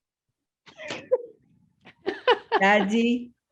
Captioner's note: laughing